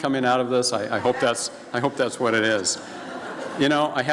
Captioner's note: laughing from audience